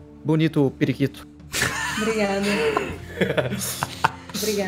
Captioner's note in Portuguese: risada